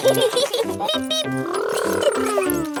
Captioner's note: both laughing